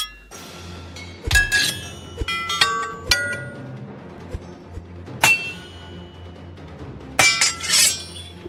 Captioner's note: swordfighting clangs